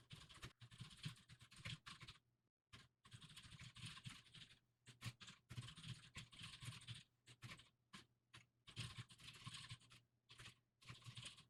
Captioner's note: typing sounds